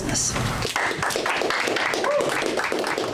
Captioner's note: applauding